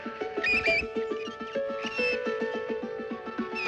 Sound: birds Chirping

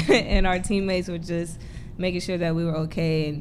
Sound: laughter

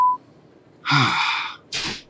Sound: frustrated Sigh; meditative Voice

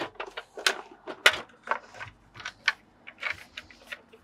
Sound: plastic clattering

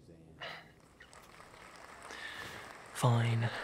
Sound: audience applauding

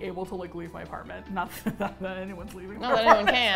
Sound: laughs

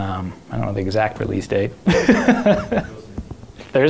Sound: laughs

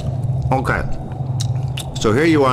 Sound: relaxing asmr nomming

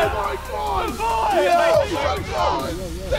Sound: cheering

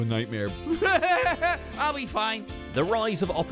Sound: manic laughter

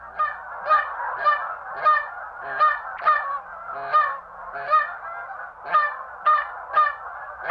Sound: goose call sound

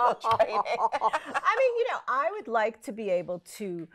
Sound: laughs

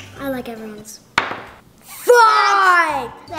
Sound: thud

